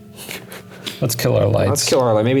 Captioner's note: laughing